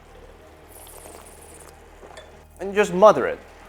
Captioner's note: slurps